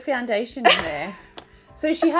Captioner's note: chuckles